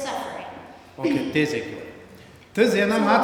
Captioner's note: speaking tibetan